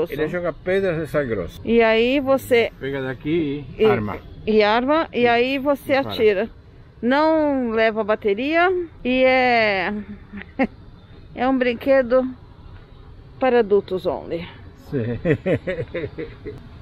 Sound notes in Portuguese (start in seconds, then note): 10.0 risos